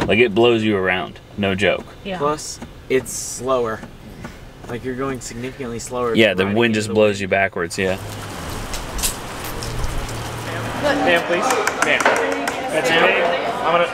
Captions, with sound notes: Like, it blows you around, no joke. - Yeah. - Plus it's slower. Like you're going significantly slower. - Yeah, the wind just blows you backwards, yeah. (rustling wind) (crowd chattering)